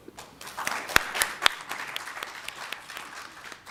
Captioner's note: applause